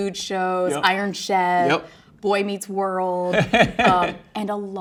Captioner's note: laughs